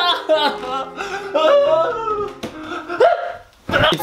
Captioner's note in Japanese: 泣き声